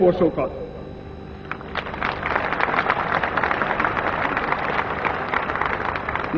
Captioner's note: applause